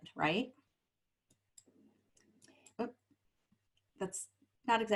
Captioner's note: silence